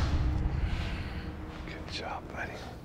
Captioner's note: whispering